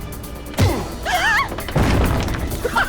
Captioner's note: all gasp; laughing